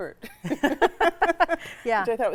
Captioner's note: both laughing